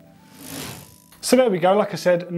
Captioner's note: pedals whirring